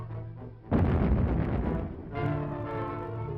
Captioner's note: boom!